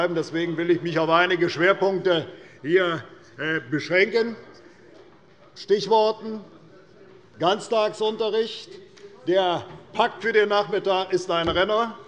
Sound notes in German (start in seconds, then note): none